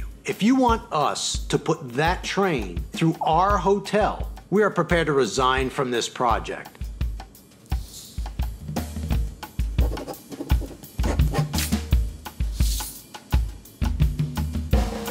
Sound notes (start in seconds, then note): 9.0 pen scribbling